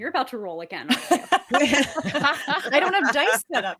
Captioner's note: cast laughing